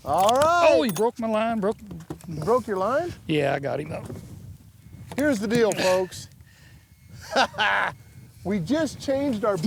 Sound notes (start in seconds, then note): 7.2 chuckles